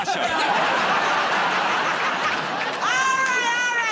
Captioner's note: laughter